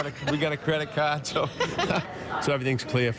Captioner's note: laughter